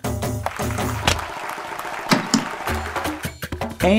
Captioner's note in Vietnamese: tiếng vỗ tay - bẹp bẹp bẹp